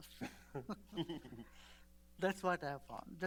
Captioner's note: laughs